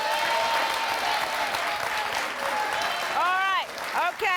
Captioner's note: applause